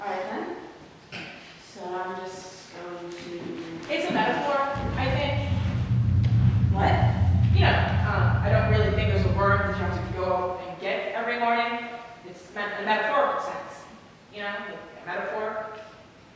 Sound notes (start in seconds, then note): 4.7 low rumbling; 4.7 rumbling continues